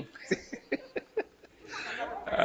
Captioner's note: all laughing